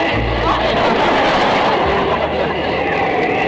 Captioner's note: audience laughter